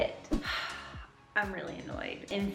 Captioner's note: sighing